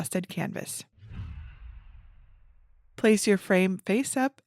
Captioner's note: image whooshes